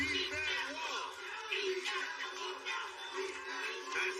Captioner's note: chanting